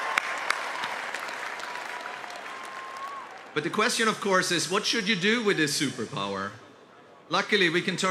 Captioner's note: cheers and applause